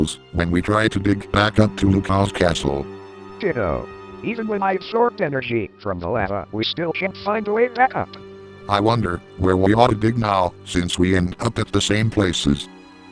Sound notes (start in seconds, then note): none